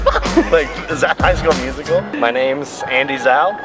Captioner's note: laughing